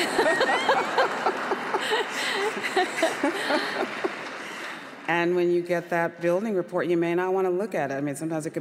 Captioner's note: audience laughter